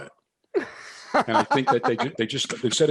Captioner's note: laughs